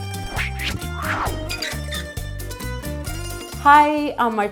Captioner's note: fast upbeat music; logo whooshing